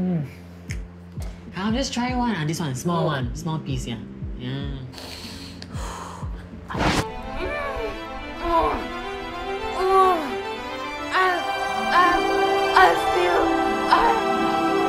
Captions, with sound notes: Come just try one ah, this one. Small one. Small piece here. [moaning] Oh. Oooo. I... I feel... I...